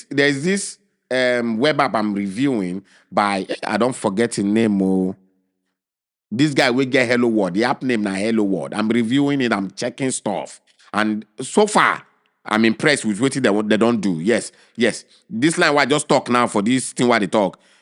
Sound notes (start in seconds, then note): none